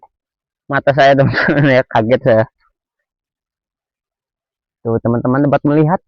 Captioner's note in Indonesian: tertawa